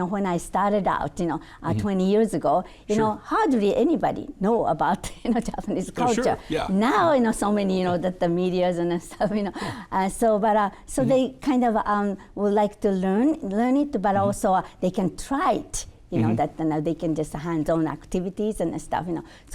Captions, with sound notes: when I started out, you know, 20 years ago, you know, hardly anybody know about, (chuckling) you know, Japanese culture. Now, you know, so many, you know, that the medias and stuff, you know. But so they kind of would like to learn it, but also they can try it, you know? That they can just hands-on activities and stuff, you know?